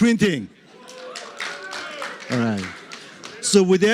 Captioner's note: cheering